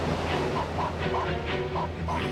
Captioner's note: barking